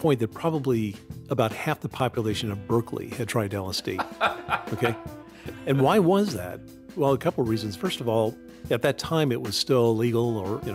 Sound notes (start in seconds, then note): 3.9 laughs